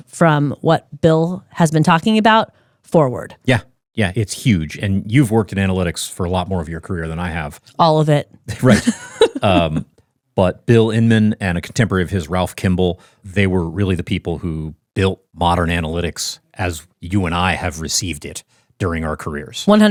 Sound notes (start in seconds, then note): 8.6 laughs